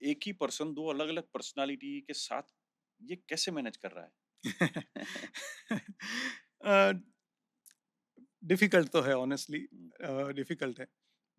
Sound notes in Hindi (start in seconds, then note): 4.4 हंसी